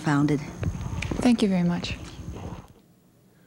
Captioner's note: pat